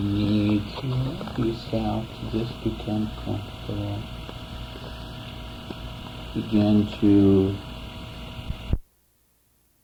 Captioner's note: tape runs out